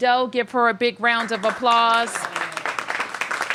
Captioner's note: applause